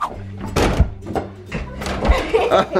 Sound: door banging; laugh

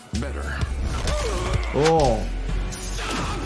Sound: blow thuds

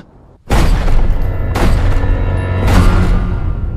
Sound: gunshots fire

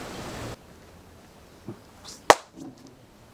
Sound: clap

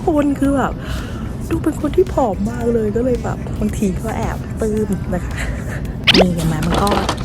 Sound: laughs

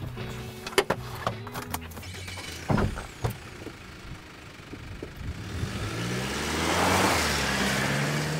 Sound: truck starting

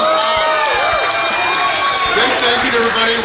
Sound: cheering & Clapping

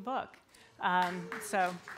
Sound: applause

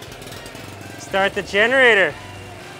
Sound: generator buzzing

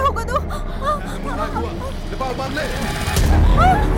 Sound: Malay Language

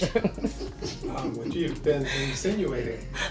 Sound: laughing

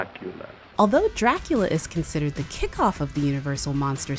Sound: voiceover

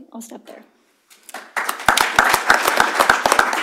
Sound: applause

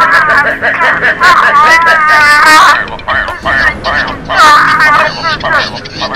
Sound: bird Sounds

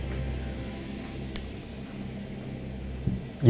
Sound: none

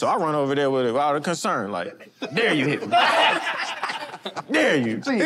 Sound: laughter

